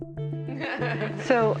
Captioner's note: laughs